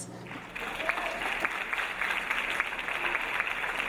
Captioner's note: audience applauding